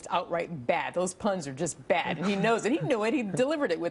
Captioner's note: laughter